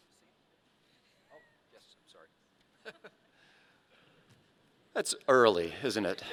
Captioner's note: laughing